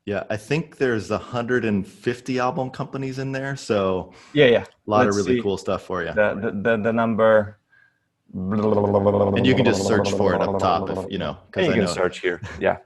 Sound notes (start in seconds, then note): 8.3 gargles